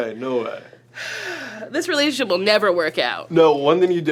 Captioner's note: sighs